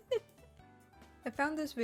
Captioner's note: very bad fake laugh